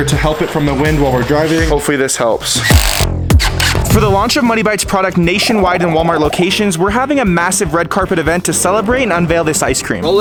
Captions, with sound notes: to help it from the wind while we're driving. Hopefully this helps. (drill whirring) For the launch of Muddy Bites product nationwide and Walmart locations, we're having a massive red carpet event to celebrate and unveil this ice cream.